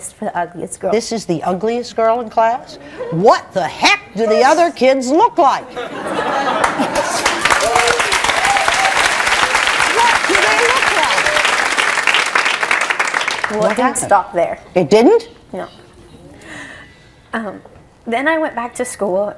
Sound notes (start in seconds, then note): 5.6 audience laughs; 6.5 audience clapping